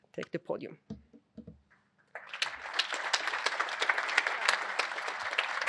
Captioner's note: applause